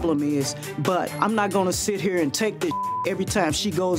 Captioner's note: beep